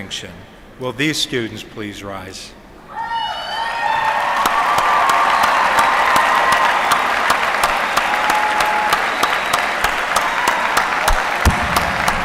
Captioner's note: applause